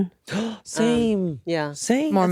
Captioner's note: gasps